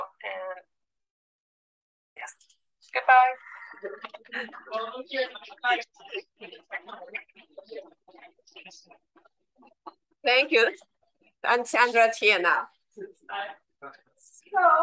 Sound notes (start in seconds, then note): 5.8 background chatter